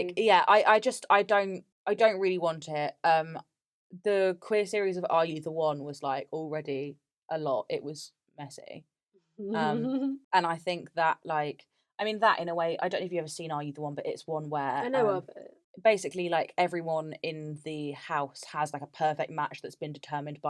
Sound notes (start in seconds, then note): 8.9 laughs